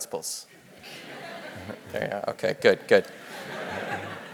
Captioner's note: laugh